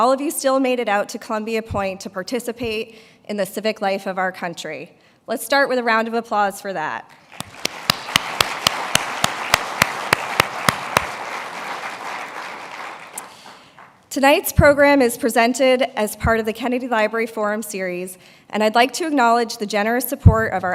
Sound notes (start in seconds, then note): 7.2 applause